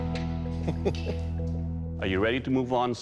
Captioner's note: chuckles